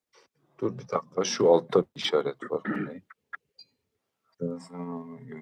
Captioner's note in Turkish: boğazını temizler